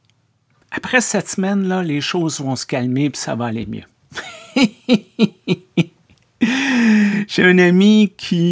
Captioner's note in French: Rire